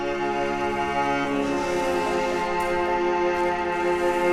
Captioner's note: sand shifting